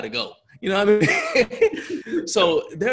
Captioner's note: laughs